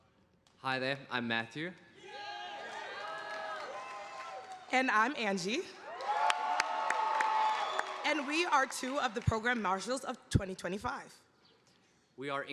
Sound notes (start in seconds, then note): 2.1 audience applauding